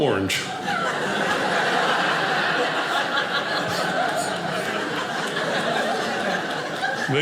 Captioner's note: audience laughing